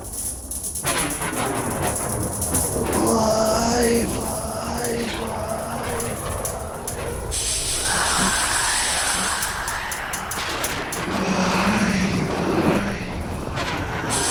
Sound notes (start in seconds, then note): 0.0 faint metallic rattling; 0.2 trembling causes continued rattling; 7.0 metal clashing; 8.1 intense shrill screaming; 11.3 multiple unfamiliar discordant voices in unison